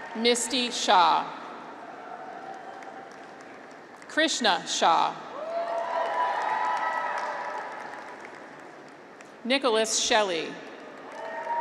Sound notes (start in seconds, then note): 2.2 audience applauds; 5.3 graduates cheer